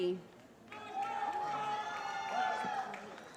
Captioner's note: cheering